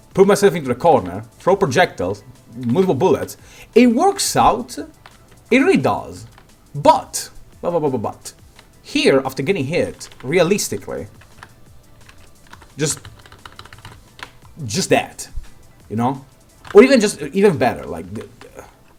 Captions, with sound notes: Pull myself into the corner, throw projectiles, multiple bullets... It works out!... It really does... BUT! BUBUBUBUT... Here, after getting hit, realistically... Just... *AGGRESSIVE KEYBOARD TAPPING* Just... JUST THAT! You know? Or you can just... even better... like... dghn eghn...